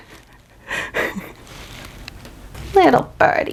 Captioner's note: laughs softly